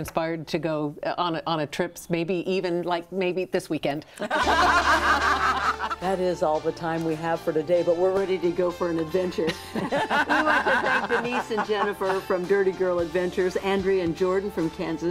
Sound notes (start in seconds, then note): 4.2 group laughs